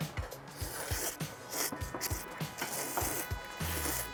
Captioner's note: slurping